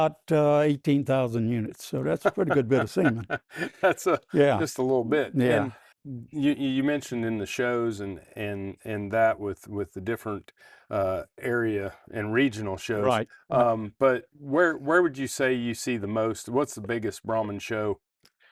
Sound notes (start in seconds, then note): 4.2 laughing